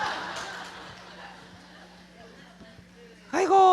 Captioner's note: audience Laughter